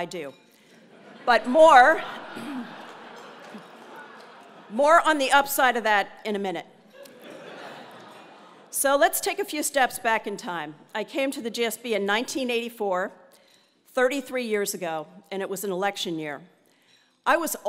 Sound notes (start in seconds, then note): 1.9 laugh; 7.0 laugh